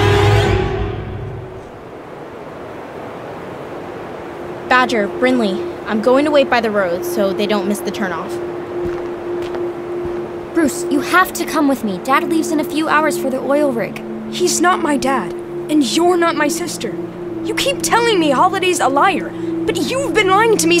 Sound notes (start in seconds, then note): 0.0 suspenseful Music; 3.3 blowing Wind